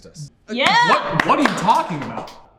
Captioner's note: all but Chris cheering